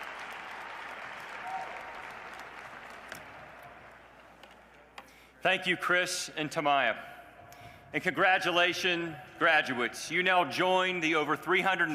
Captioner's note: cheers and applause